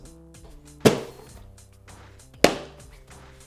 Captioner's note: thumping on box